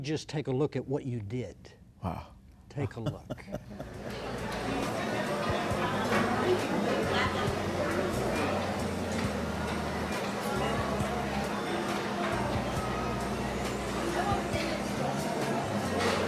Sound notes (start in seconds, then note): 3.4 ambient chatter